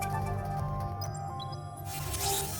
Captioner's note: digital chime